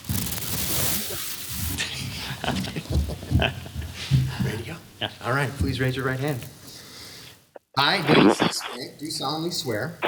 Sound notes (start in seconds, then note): 2.4 soft giggling